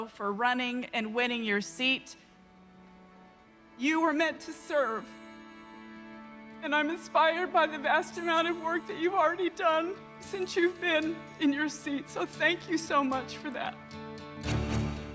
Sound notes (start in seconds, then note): 3.9 voice breaking